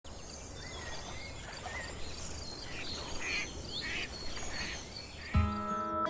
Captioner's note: birds chirping; gentle music